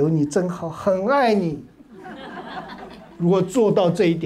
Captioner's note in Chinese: 哈哈哈